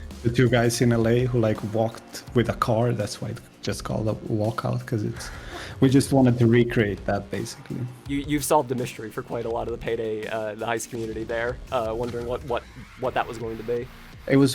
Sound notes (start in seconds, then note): 5.2 laughs